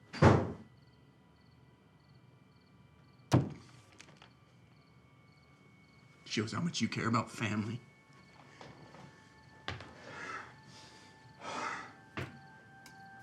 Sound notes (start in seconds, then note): 0.2 door thuds; 3.3 fist bangs; 11.5 Isaac sighing